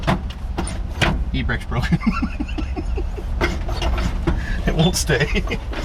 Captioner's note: laughs